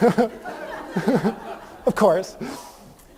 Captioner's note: laughter